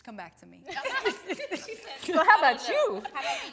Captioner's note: laughing amusingly